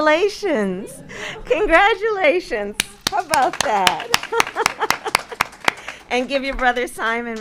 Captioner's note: applause